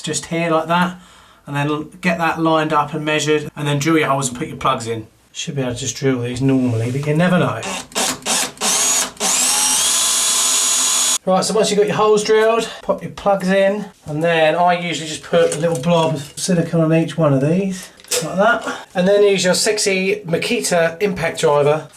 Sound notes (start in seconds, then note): 7.6 drill whirring